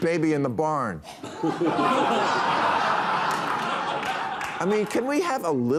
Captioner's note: audience laughing